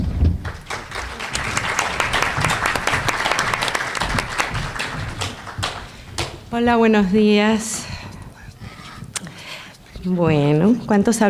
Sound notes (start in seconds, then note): 0.4 applause; 6.1 foreign language